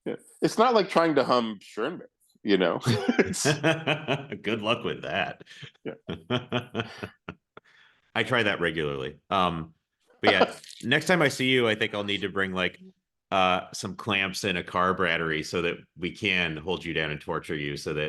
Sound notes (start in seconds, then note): 2.8 both laugh; 7.7 giggles